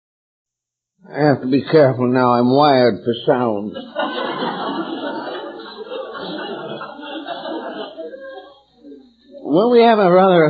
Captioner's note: laughter